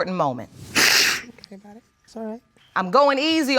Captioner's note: sniffles